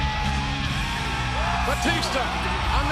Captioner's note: audience cheers